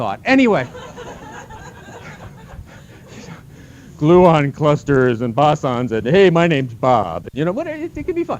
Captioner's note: laughter; exasperated